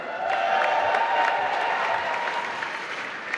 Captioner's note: applause